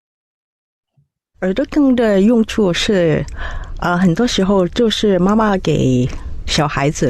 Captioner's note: storyteller 4 in Mandarin